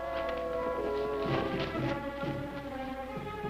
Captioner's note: footsteps; suspenseful music